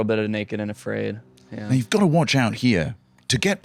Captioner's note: as Bear Grylls